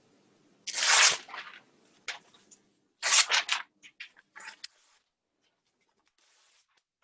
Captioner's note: sound of ripping paper